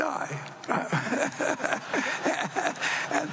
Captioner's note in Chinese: 笑聲